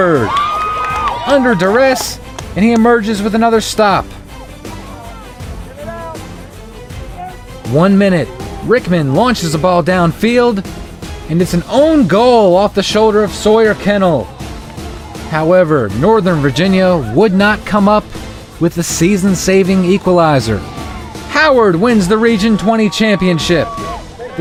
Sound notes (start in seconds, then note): 4.5 crowd cheers